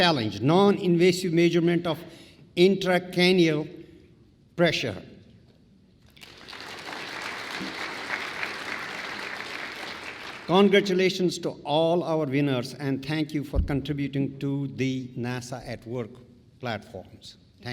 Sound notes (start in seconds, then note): 6.1 applause